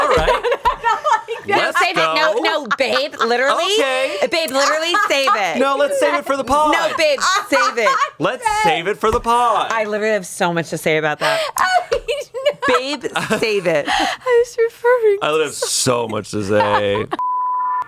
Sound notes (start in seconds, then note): 1.4 laughs; 17.2 beep